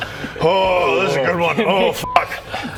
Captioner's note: hrrrrgh